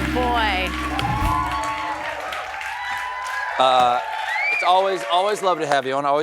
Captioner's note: cheers and applause